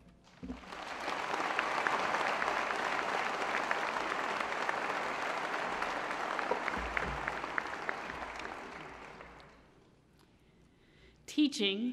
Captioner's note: applause